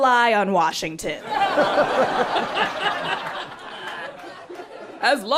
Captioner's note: people laughing